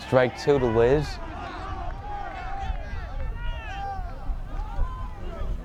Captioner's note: crowd cheers